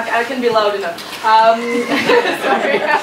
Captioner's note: laughs